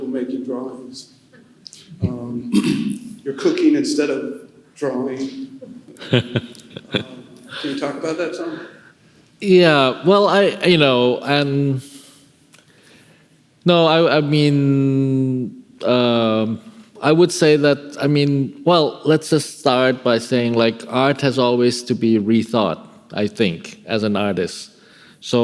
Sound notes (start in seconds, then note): 5.6 laughing